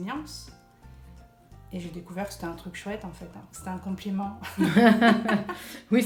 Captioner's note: laughs